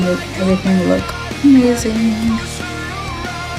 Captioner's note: in a sing-songy voice